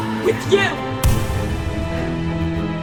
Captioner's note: gunshot